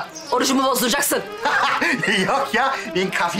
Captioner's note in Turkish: Gülme sesi